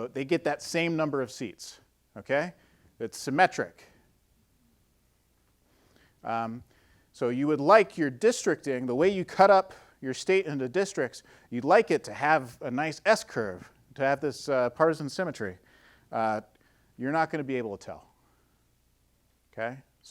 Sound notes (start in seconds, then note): none